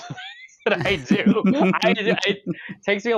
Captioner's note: laughs